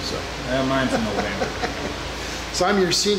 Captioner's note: laughing